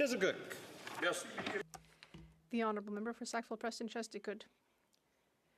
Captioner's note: speaking French